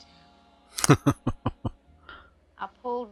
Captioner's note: chuckling